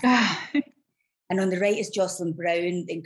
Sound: exclaims

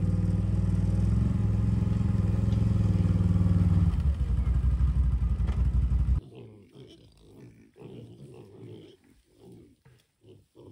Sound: engine revving

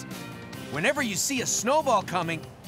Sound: none

